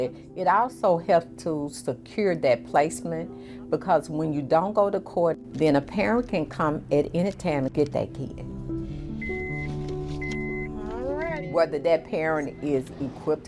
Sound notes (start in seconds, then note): 9.1 car beeping